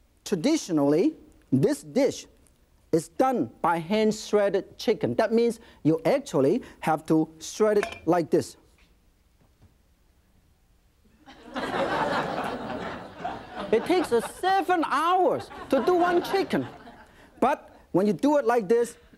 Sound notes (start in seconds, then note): 11.2 audience laughing